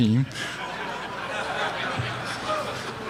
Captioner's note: laugther